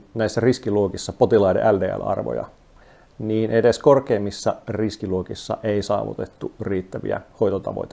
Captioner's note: speaking in foreign language